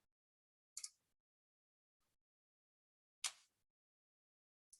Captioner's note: mouse clicking